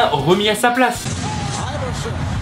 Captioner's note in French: public crie "Defense!"